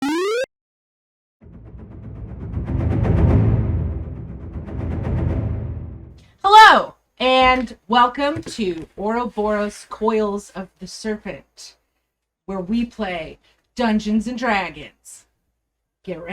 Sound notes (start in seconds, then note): 0.0 vintage video game sound; 1.4 dramatic music